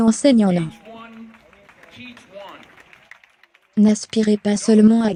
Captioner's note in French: L'audience applaudit